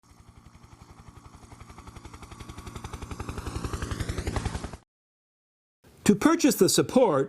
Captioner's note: helicopter in flight